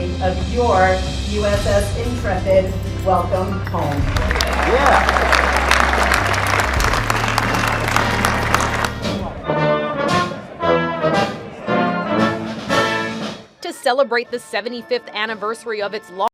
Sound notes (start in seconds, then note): 6.7 applause; 9.2 rousing orchestral music